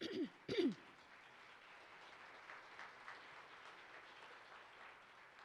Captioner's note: participants applaud